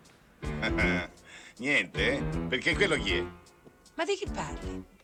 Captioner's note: laughing